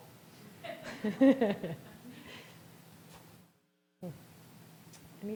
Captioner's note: all chuckling